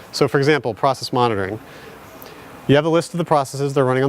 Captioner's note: none